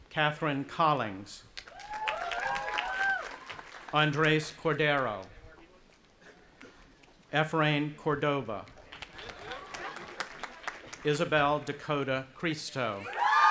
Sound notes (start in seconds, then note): 1.6 audience applauding and cheering; 8.8 audience applauding; 13.0 cheering